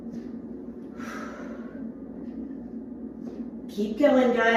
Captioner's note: sharply exhaling